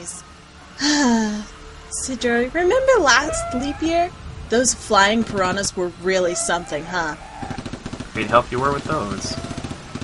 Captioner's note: Alex, sighs before continuing; Cidro, sarcastic